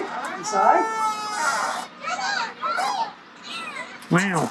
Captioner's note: door creaks